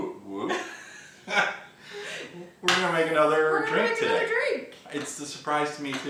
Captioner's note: laughing